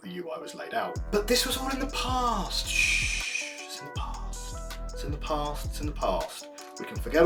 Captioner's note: shhhh